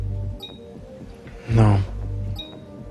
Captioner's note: beeping